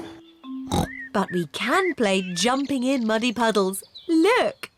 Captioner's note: oinks